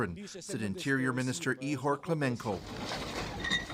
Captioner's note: speaking alternate language